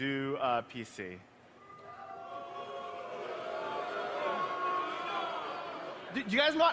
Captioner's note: crowd booing